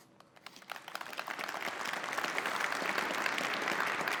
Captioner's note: applause